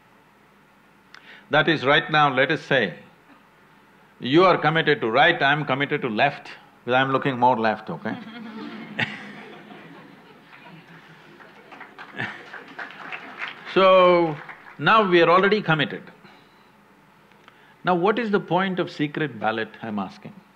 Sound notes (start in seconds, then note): 10.2 applause; 10.5 few laugh